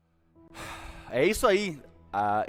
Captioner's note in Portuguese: suspira